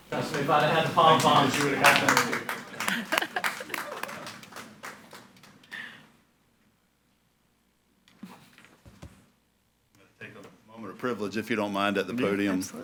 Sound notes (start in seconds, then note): 4.1 all applauding